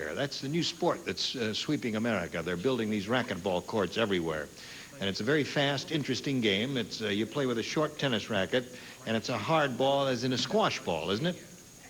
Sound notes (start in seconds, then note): none